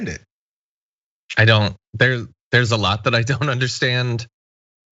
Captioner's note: laugh